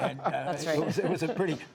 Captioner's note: laughter